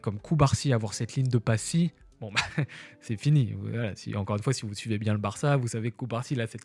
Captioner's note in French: rires